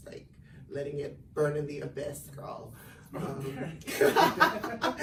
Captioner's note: laughs